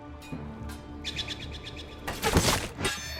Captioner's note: bird chirping; blades clanging and horses neighing